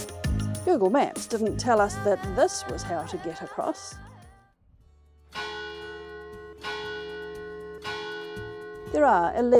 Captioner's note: bell ringing